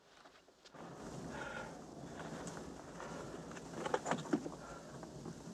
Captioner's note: strong wind